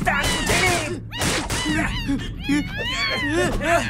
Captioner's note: Amato struggling